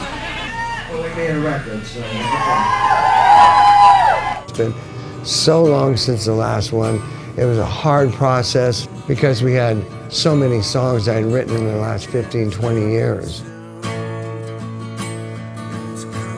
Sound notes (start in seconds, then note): 0.0 audience laughing; 2.3 audience cheering; 14.0 gentle guitar music